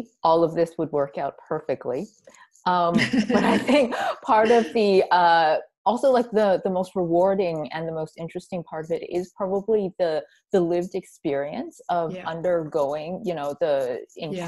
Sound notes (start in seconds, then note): 4.4 laughs